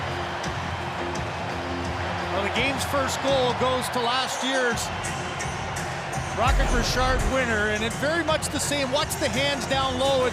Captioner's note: cheering and Applause